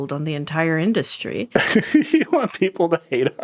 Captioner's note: laughing